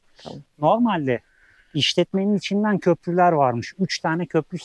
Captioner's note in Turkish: homurdanır